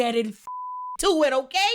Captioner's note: beep